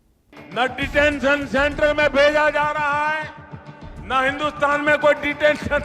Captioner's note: speaking foreign language